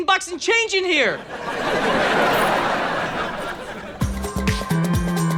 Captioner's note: audience laughter; dance music